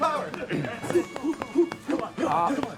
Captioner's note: clearing throat